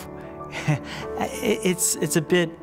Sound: chuckles

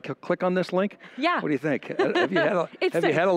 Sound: laughs

